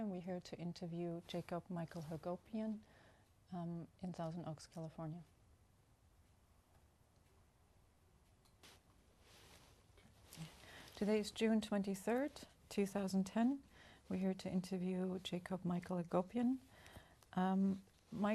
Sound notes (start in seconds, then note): none